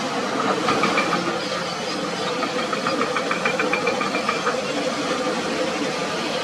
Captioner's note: excavator Rumble